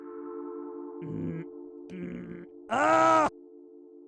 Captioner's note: Jake screaming